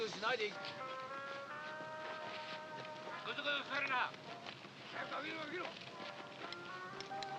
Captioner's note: soft music; shouting in Japanese